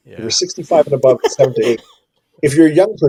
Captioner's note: laughs